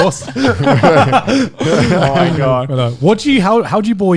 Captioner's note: all laughing